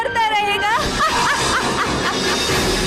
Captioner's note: laughs